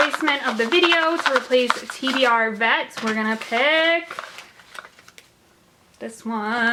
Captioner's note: shuffling noise